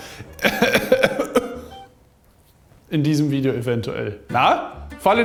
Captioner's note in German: Er hustet